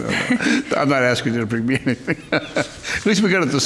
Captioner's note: laughing